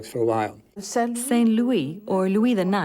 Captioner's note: speaking in foreign language